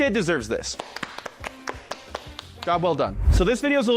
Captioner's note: both clapping